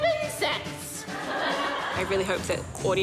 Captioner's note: laughter